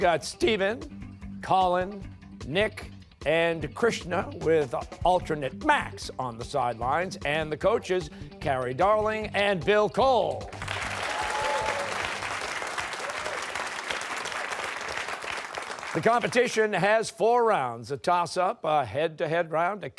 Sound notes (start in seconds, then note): 10.4 applause